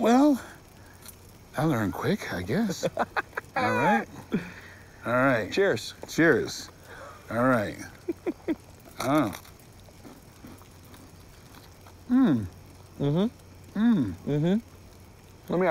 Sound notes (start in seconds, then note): 2.8 laughs; 7.8 chuckles; 10.1 s'mores crackling